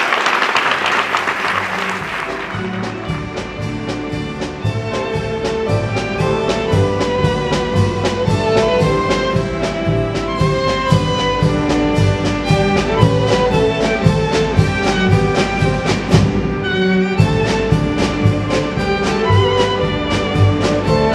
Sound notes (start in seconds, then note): 3.5 applause